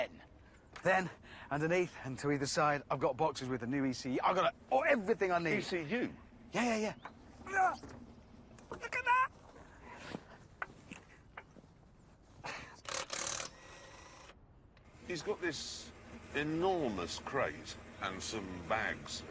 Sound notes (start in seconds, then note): 7.2 grunts; 12.8 electric motor whirs